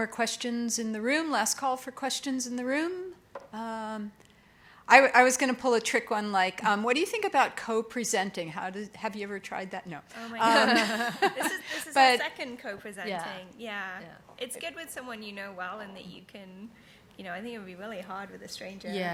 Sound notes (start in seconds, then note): 10.4 laughing